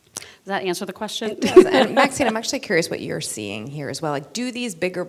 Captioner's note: laughter